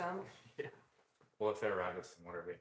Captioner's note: chuckling